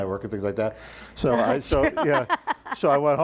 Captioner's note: laughing